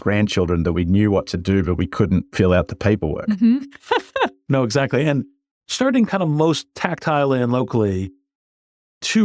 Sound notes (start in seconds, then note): 3.4 laugh